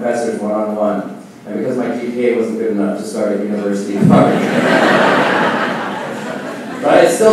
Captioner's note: laughing